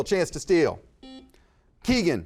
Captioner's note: buzzer buzzes